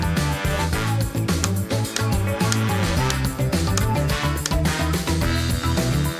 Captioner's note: upbeat music; hammering